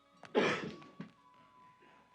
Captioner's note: coughs